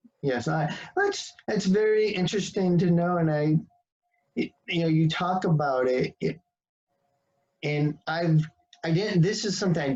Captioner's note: voice peaks